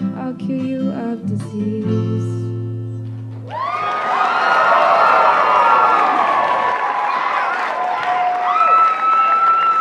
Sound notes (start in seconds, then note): 3.4 cheering